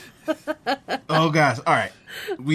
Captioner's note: laughs